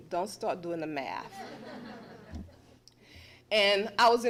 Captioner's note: laughter